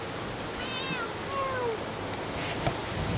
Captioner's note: meow